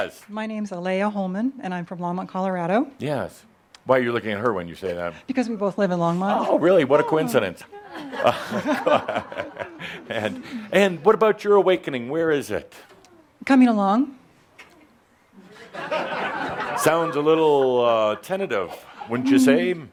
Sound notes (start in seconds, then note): 7.6 they chuckle; 14.8 some chuckles